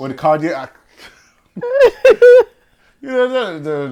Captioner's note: laughter